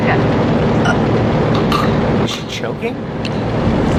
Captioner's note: choking